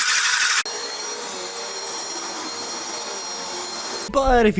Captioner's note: vacuuming